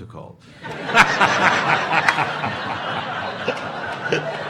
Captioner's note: audience laughing